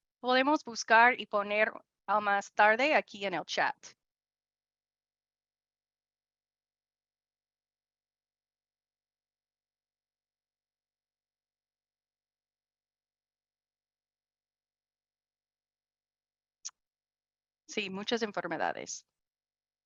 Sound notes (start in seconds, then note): 3.9 silencio; 19.6 silencio